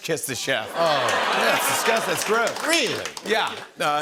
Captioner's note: audience ohs